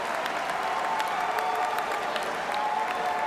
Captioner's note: cheers and applause